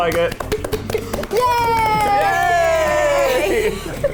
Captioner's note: group cheers